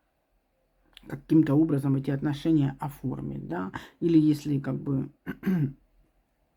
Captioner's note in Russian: откашливается